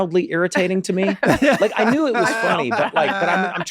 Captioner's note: Charlie laughing